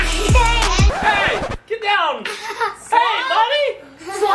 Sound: record scratch

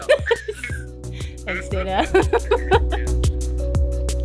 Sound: laughs

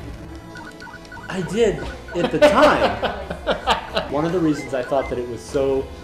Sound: laughs

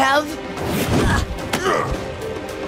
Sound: grunting

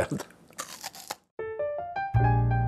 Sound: crunching; jazzy piano music

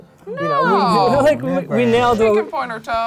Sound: laughs

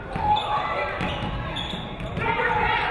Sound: none

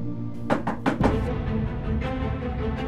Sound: knocking on door

